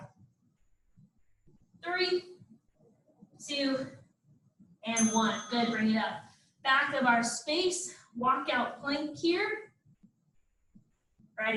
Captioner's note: ding